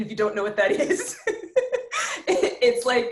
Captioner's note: laughs